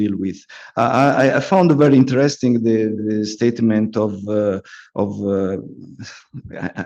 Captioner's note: laughs